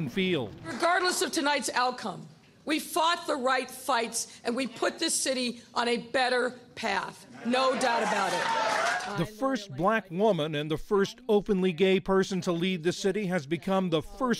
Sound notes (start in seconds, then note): 7.7 cheering and applause